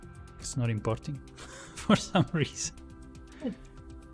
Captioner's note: laughs